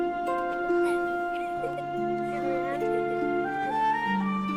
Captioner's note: laughing